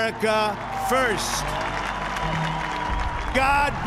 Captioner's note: cheers and applause